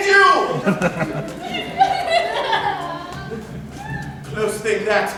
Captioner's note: Laughter, YUM-YUM sobbing